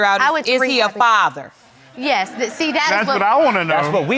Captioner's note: audience chattering